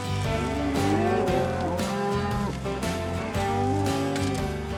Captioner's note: mooing